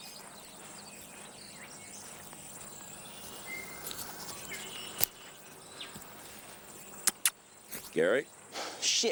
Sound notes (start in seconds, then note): 7.0 smacks lips; 8.6 Gary sighs